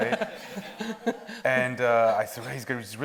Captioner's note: audience laughs